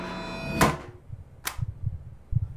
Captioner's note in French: bruit sourd de tampon en caoutchouc